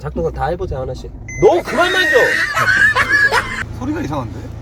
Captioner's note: yelling